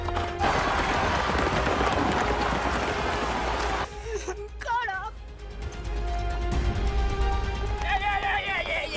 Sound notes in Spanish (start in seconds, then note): 2.7 Algarabía en el hipódromo